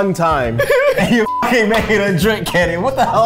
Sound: beep

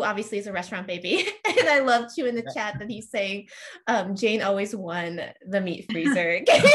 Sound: laughs

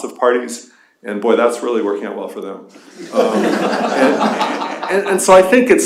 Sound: laughter

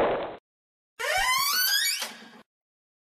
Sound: creEAAAKKkk

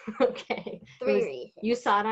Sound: laughs

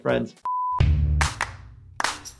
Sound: television beep

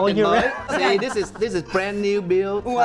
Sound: laughing

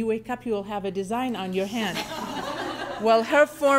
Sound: laughing

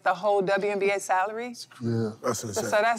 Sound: chuckles

